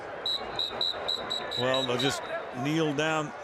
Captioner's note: whistling